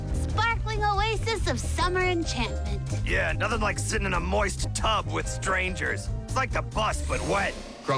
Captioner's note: none